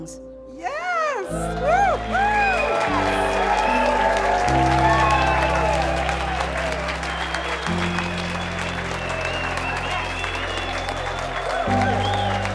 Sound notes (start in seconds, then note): 2.4 cheers and applause